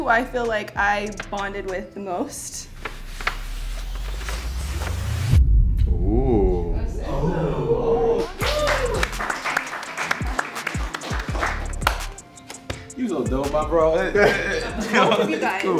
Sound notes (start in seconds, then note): 8.2 clapping